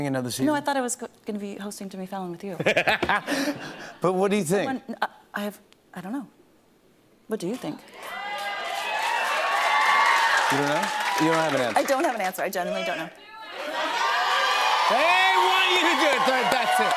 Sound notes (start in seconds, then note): 2.6 laughs; 7.8 cheers and applause; 13.3 audience shouting